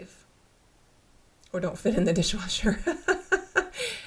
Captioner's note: laughter